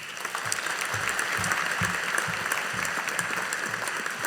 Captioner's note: audience applauding